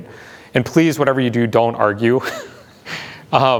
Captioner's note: laughs